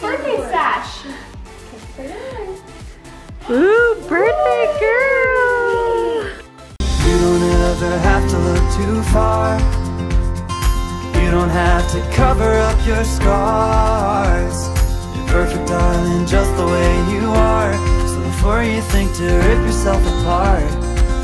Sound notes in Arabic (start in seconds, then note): 4.8 فتاة تضحك